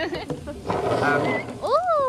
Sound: laughter

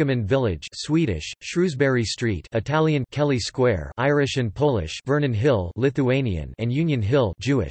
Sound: Italian; Lithuanian

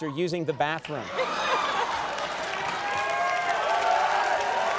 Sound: audience cheering

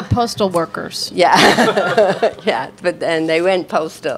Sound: laughs

